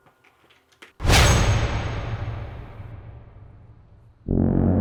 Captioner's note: sickle whooshes and clanks; creepy circus music